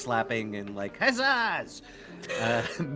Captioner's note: Cornette laughs; Calla laughs; laughs